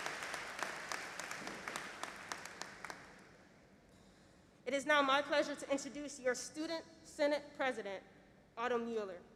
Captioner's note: applause